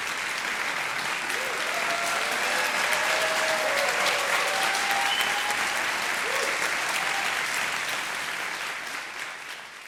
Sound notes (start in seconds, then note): 1.3 audience cheering